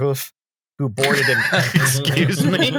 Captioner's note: laughter